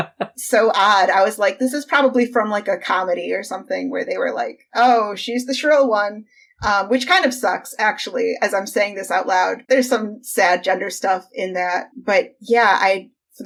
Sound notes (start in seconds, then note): 0.0 laughs